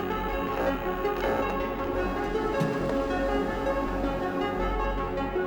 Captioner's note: mysterious music; projector clicking; text buzzing softly